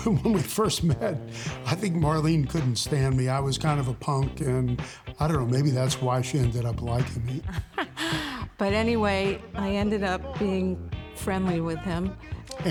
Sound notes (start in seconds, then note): 6.2 laughing